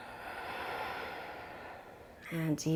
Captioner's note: inhales